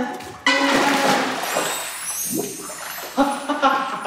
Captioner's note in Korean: 촤라락